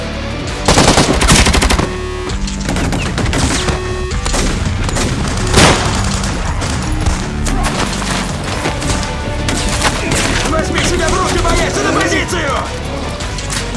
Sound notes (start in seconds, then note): none